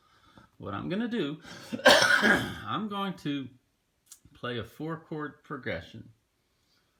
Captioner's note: cough